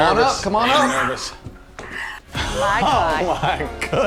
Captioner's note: gasps